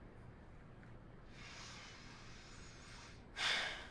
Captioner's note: breathes deeply